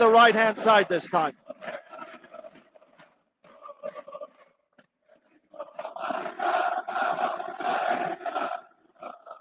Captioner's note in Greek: Γέλια